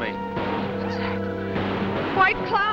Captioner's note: gunshots